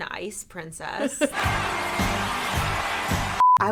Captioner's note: crowd cheering; beep